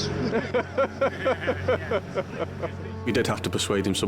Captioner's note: all laugh